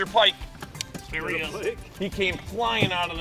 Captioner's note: voiceover